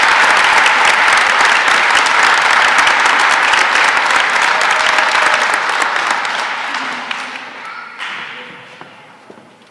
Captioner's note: applause